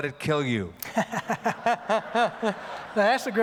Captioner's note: laughs